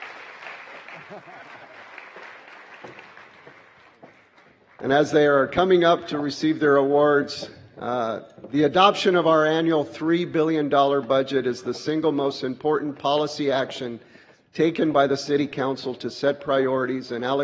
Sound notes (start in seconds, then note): 4.0 applause